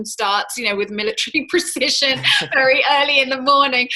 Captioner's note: laughs